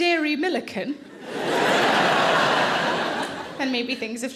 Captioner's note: audience laughing